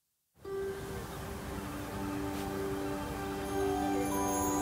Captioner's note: bird chirping